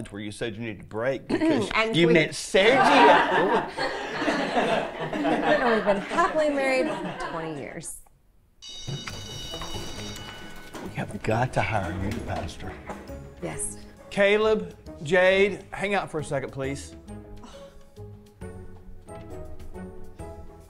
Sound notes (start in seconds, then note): 2.6 class laughs; 8.6 bell rings